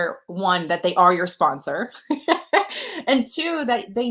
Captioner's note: laughter